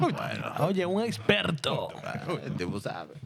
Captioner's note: speaking In Spanish